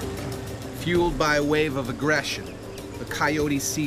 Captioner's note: voiceover